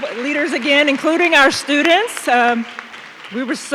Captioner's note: audience clapping